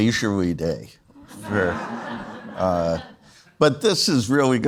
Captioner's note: audience laughs